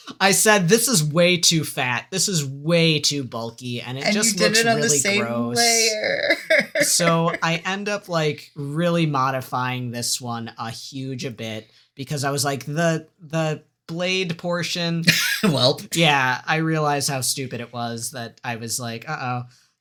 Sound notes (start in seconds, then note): 3.5 agony